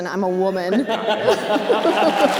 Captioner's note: Knowles laughter; audience applause